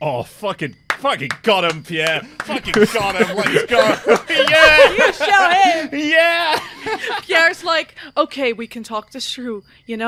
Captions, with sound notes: (Clapping) Oh, fucking... fucking got 'em, Pierre. [Laughter] Fucking got 'em, let's go! Yeah! You showed him! (Laughing) Yeah! [Sound of crickets chirping begin in the background] Pierre's like, "Ok, we can talk this through,